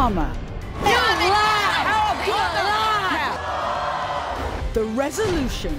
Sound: women scream at one another

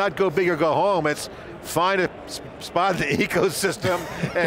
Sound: laughing

